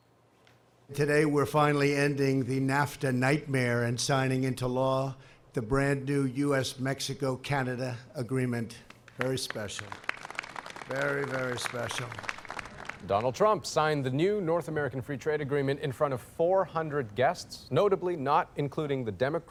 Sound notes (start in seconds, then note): 11.8 applause